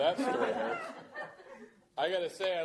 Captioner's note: laughter